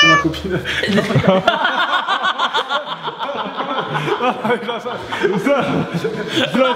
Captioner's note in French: rire